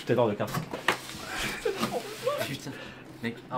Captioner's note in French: rire